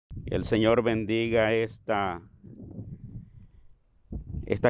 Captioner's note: speaking in Spanish